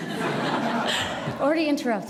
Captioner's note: audience laughs